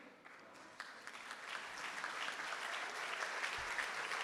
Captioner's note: audience applauding